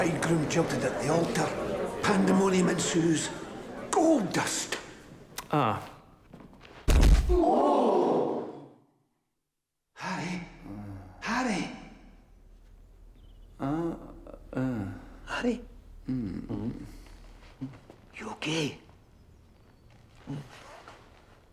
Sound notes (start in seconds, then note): 6.8 punch striking; 15.9 moaning